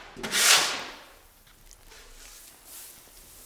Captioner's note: scraping